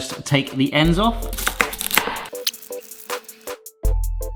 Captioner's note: knife banging; upbeat jaunty music